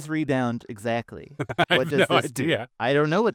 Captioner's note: laughing